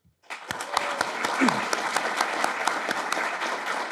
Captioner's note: audience clapping